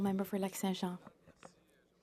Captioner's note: speaking French